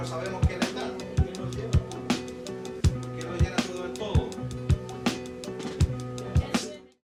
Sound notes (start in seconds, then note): 2.3 upbeat music continues; 2.8 people continue talking